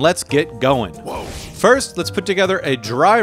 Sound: air whooshing

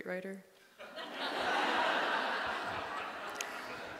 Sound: laughing

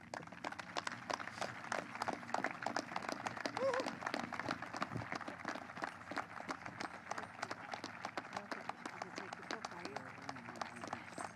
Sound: applause

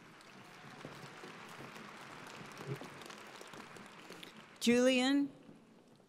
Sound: audience applauding

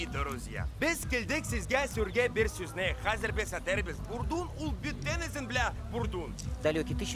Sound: speaking Tatar

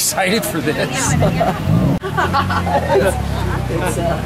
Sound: laughs

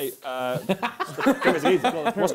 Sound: both laughs

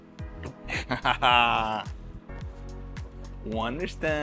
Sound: laughs

